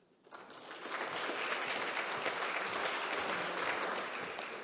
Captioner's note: audience clapping